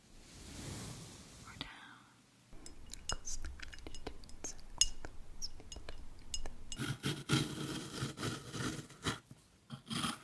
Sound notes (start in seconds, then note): 0.2 whispering; 2.6 fingernails gently tapping glass; 6.2 rough scraping